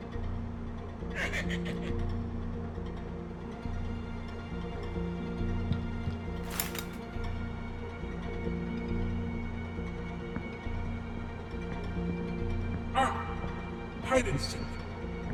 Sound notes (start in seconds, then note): 1.1 leprechaun laughing